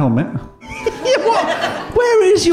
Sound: giggling

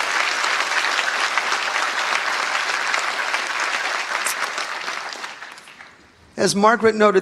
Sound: applause

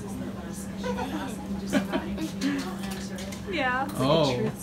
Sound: laughing

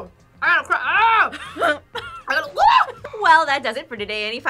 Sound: laughs

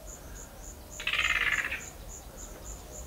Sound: yellow-Crowned Gonolek call

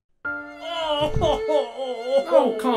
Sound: crying

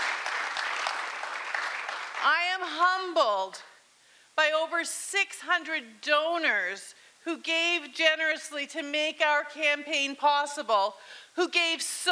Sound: cheering and Applause

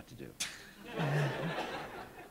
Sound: laughter

